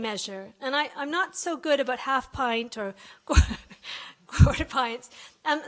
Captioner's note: laughs